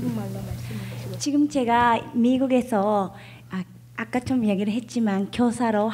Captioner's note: speaking foreign language